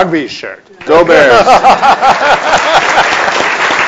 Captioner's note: laughs; audience applauds